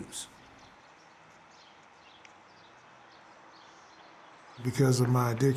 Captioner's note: birds singing